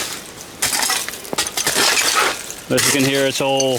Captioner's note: glass clanking